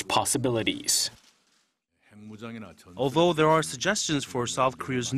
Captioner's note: Korean